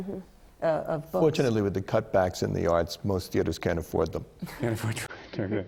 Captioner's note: laughter